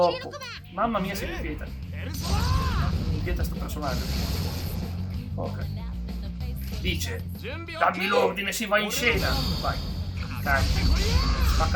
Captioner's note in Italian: urlo